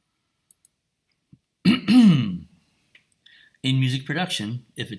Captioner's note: clears throat